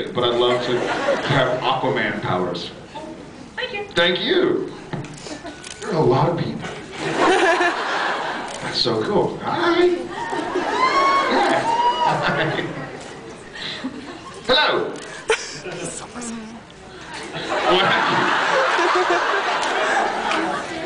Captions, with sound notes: but I’d love to have Aquaman powers. Cool, thank you. Thank you. There are a lot of people. [laughs] That’s so cool. Hi. [scattered cheers] Yeah, hi. Hello! [laughs, inaudible] [laughs]